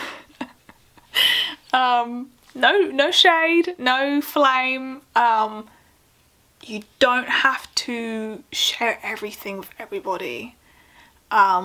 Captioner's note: laughs